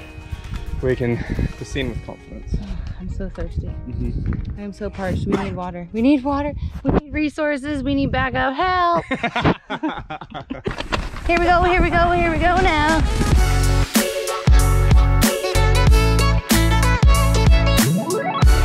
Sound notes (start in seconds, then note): 8.8 laughs; 14.3 pop instrumental music playing